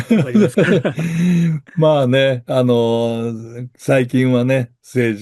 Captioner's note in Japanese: 笑い